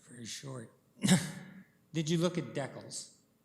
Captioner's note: chuckling